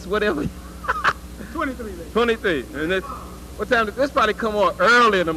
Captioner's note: laugh